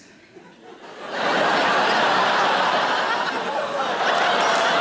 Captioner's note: audience laughs